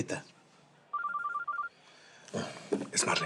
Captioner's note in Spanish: suena el celular